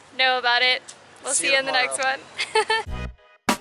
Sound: laughter

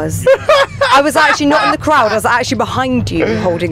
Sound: laughing

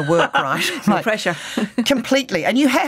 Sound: laughs

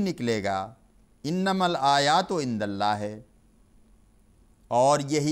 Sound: Arabic

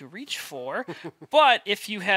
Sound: chuckles

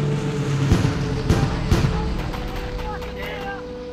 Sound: bombs explode

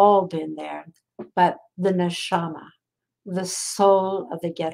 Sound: speaking in foreign language

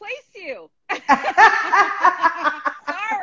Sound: laughing

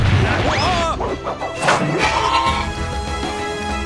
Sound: grunting

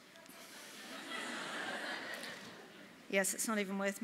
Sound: laughter

